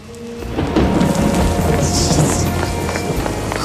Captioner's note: rain drops splatter